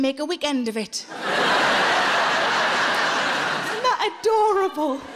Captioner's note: audience laughing